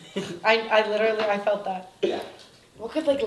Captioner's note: laughs